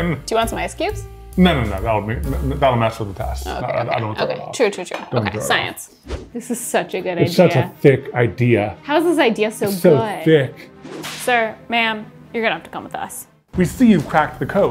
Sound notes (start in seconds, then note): 5.9 graphics whooshing; 10.7 graphics whooshing; 14.5 suspenseful music